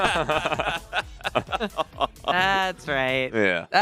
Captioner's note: both laughing